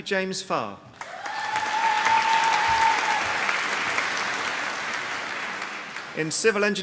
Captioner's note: applause